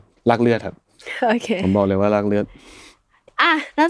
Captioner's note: laughs